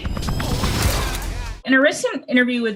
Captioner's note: laser sound